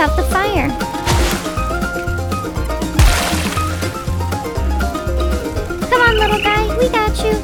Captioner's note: water splashing; upbeat music